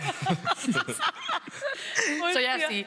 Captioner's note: laughing